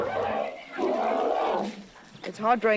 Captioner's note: grunting